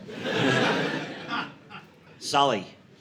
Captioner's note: audience laughing